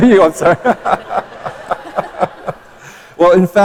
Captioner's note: laughter